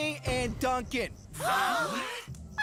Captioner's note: all Gasping